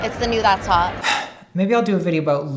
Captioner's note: sighing